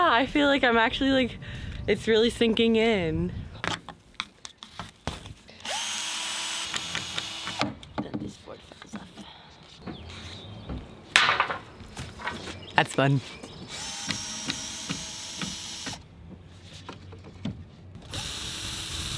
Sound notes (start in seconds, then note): 5.6 drilling machine revving; 11.1 wood clanging; 13.8 drilling machine revving